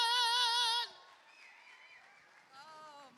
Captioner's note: cheers and applause